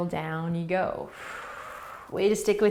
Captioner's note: exhaling